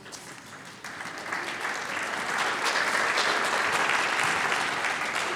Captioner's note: applause